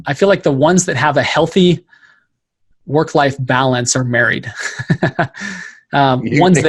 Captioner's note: laughing